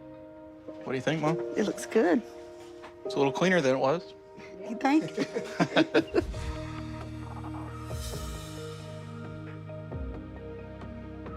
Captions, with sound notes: - What do you think mom? - It looks good. - It's a little cleaner than it was. - You think? (laughing) (uplifting music)